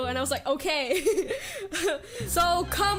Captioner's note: laughs